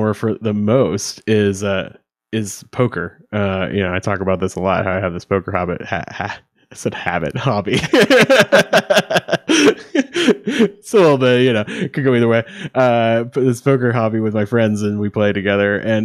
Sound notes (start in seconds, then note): 7.7 laughing